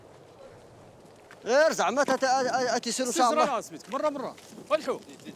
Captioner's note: Arabic spoken audio